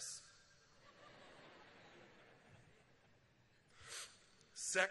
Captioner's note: laughter